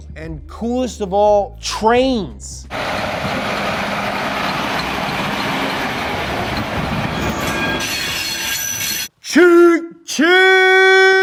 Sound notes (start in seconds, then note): 2.7 train tracks rattling; 8.0 train braking